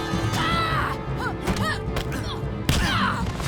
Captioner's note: grunting